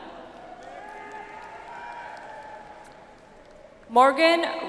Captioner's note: audience applauds